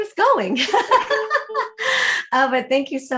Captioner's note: laughs